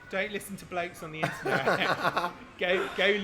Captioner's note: laugh